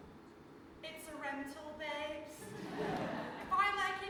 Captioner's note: audience laughs